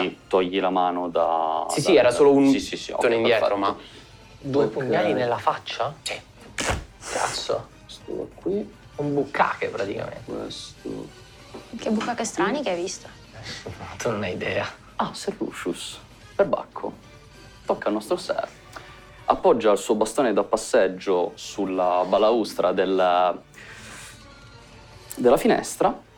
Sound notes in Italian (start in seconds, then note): 6.6 Suono di infilzamento